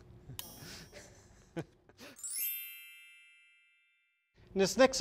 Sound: dinging; giggling

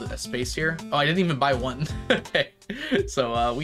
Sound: laughs

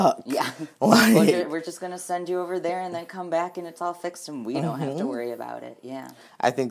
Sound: laughing; laughs

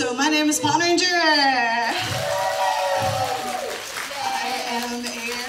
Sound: thunderous applause

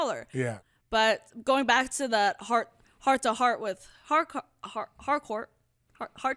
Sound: stutters

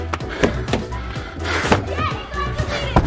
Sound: car doors open

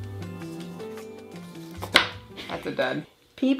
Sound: upbeat music; slaps table

